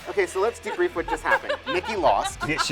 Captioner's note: laughs